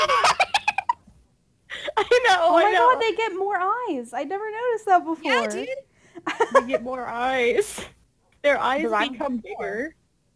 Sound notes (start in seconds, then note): 0.0 laughs; 6.2 giggles